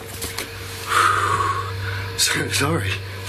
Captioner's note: exhales